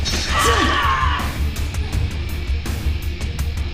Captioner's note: Maya screams